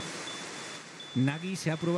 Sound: Nagi beeps

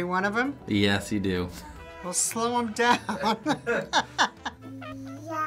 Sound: laughing

